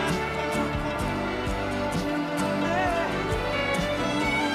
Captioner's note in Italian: Applauso